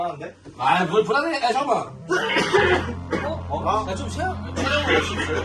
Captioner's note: coughing that gets worse